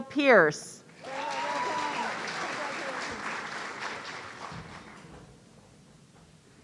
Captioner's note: audience cheering